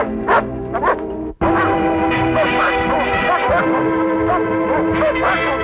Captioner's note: barking